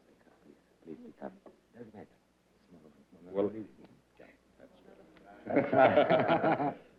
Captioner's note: whispers; laughter